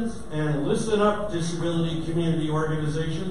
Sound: none

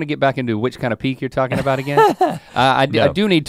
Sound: Rhett chuckles

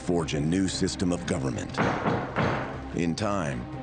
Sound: gavel bangs

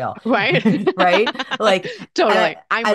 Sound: laughs

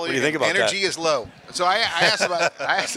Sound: laughing

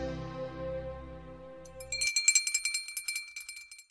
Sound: bell ringing

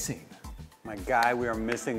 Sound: claps repeatedly

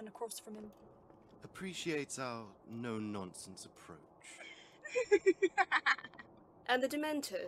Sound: more laughter

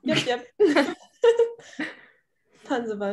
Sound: group laughing

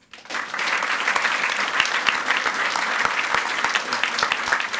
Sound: audience applauds

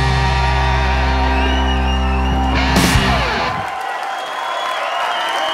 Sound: audience cheers and applauds

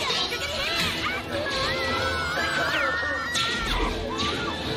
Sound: screaming

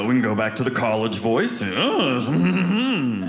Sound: audience laughing

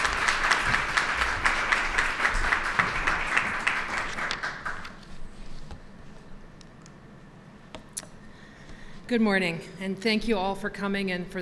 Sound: applause

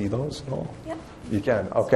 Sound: voiceover

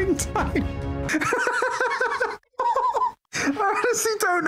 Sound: laughter

